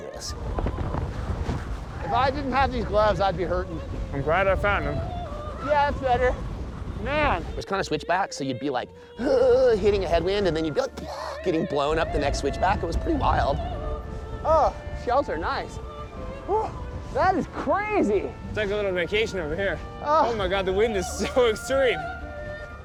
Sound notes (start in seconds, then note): 0.2 wind blowing; 8.9 grunting